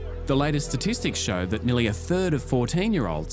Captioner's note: none